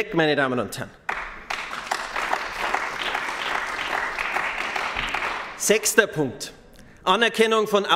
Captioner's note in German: Beifall bei den GRÜNEN